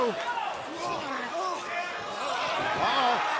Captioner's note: crowd cheering